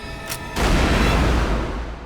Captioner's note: gunshot